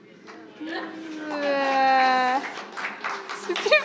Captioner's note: audience laughing; audience booing faintly; audience applauding